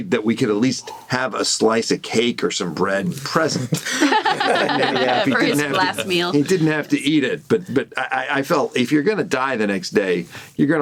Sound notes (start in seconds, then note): 3.8 laughs